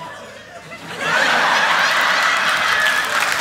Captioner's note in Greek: ηχηρά γέλια